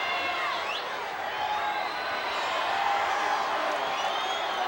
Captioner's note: audience applauding